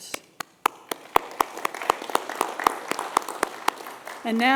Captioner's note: applause